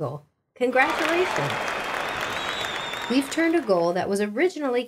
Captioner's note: clapping and cheering